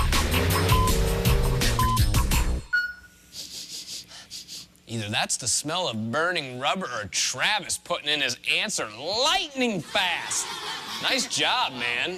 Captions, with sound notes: [electronic beeping] - [sniffing] EITHER THAT'S THE SMELL OF BURNING RUBBER OR TRAVIS PUTTING IN HIS ANSWER LIGHTNING-FAST. NICE JOB, MAN.